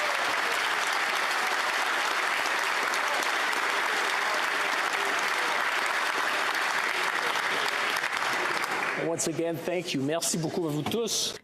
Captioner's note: applause